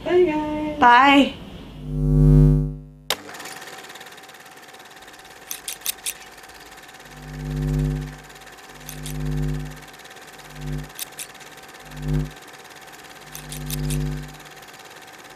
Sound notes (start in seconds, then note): 2.6 camera flickering and rolling